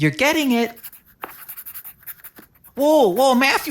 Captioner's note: pencil writing sounds